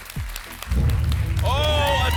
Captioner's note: rumbling sounds